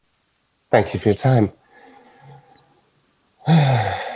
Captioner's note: sighing